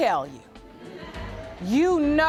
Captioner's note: audience chuckles